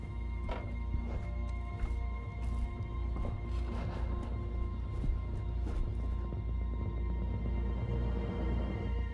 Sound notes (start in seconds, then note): 0.0 footsteps tapping; 3.9 Bert sighing; 5.7 tense music continues